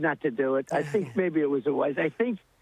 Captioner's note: laughter